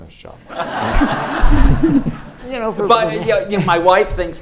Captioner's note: audience laughs